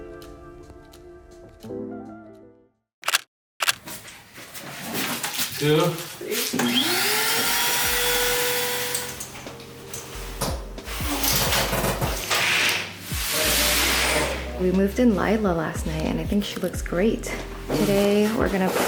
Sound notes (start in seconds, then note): 6.6 vacuum sound